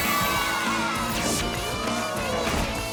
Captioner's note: cheering